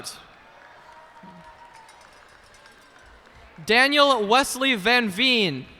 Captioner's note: cheers and applause